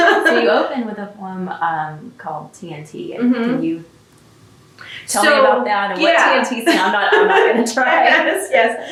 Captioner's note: laughter